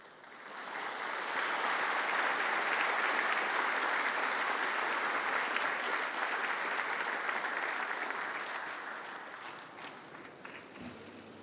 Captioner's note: applause